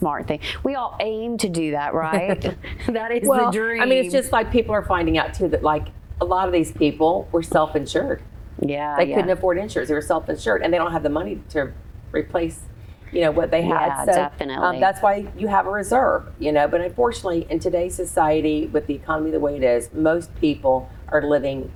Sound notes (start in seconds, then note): 2.5 laughter